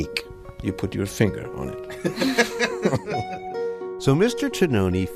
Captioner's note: laughs